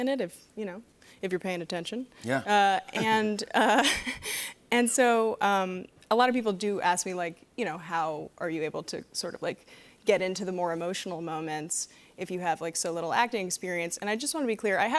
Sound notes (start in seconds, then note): 2.7 laughs